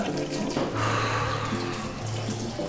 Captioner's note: urine begins splashing; sighing